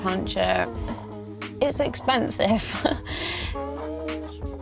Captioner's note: laughs